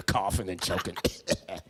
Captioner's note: loud coughing